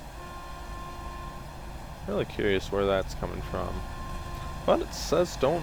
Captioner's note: horn beeping